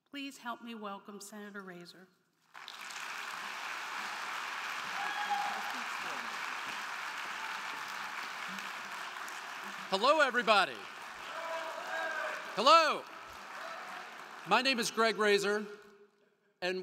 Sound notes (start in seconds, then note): 2.7 crowd cheering; 2.7 crowd clapping